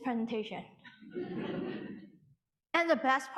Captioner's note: audience laughing